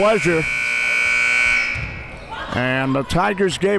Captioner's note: buzzer rings